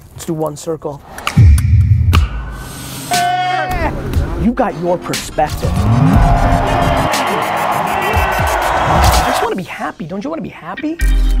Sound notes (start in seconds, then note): 1.7 ominous thudding; 7.5 crowd cheering